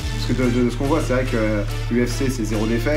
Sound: speaking French

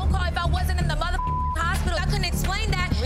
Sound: beep

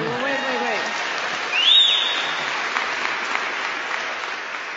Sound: applause

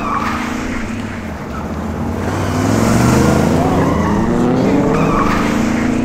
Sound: engine roaring; tires squealing

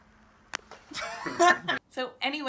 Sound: laughing

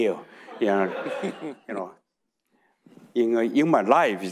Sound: audience laughing

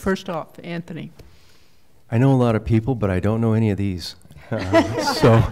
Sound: laughter

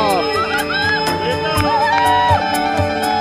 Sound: cheering

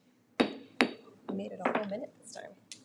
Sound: gavel bangs

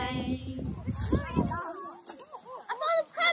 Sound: kids chattering

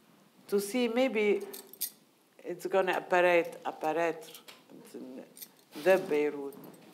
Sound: speaking in foreign language

